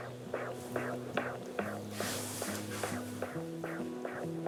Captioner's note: heartbeat whooshes on ultrasound